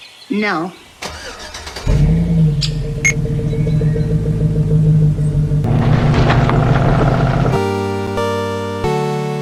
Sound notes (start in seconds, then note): 1.0 truck Startup; 5.2 truck Leaving